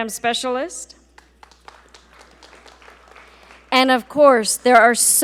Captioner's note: audience applaud